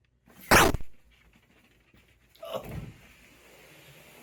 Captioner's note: gun fires